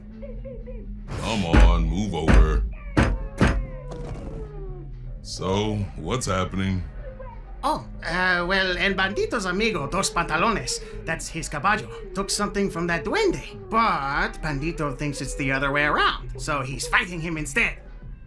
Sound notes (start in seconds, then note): 2.8 El Bandito noises in the background